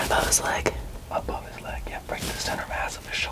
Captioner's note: whispering